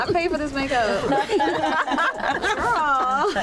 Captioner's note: laughter